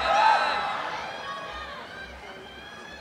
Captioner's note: applause and cheering